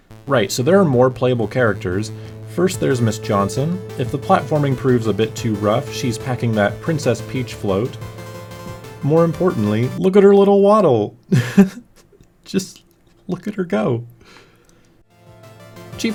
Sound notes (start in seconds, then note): 11.3 laughs